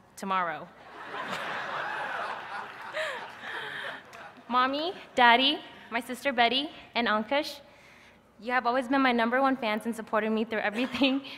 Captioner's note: laughter